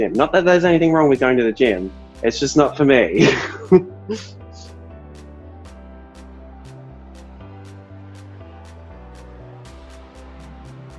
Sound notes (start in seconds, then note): 3.2 chuckles; 4.8 gentle music